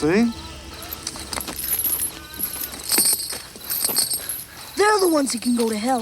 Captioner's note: chain rattles